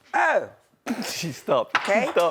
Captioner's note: laughing